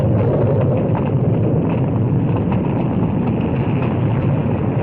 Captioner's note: fire crackling